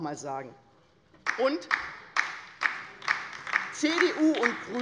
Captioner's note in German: Beifall bei der LINKEN